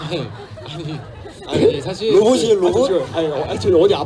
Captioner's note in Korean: 웃음; 웃음